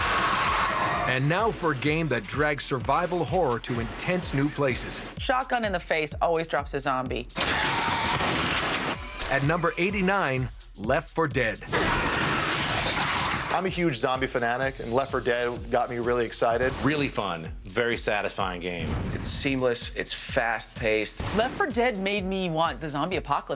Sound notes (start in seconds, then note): 0.0 screaming; 7.4 gunshot; 11.7 gunfire